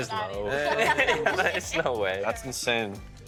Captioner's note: others laughing